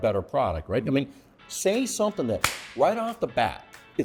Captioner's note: claps